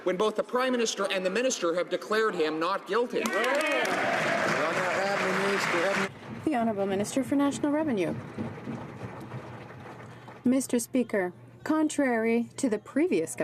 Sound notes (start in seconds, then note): 6.8 some Applause